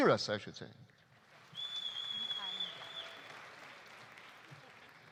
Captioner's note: audience applauding